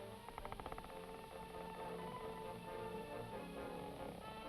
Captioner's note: door creaking; suspenseful music